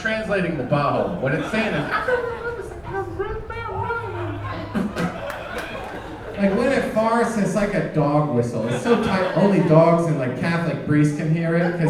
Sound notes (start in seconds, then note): 3.0 gibberishing